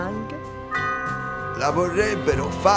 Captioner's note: single toll of the bell